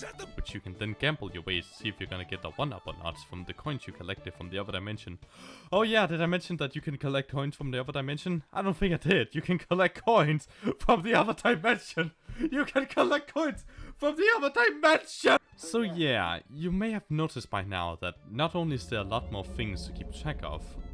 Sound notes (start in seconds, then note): 5.3 inhale